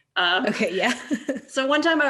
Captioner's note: laughs